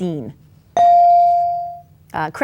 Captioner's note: bell dings